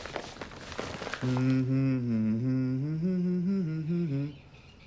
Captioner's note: humming